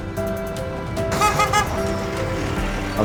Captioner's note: truck honking